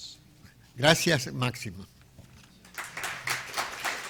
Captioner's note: speaking in a foreign language; clapping